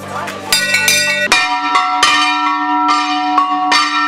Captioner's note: loud bell chiming